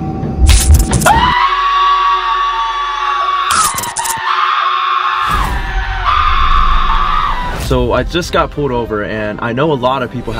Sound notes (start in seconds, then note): 1.0 screaming